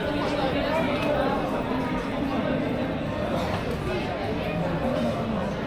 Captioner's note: people chattering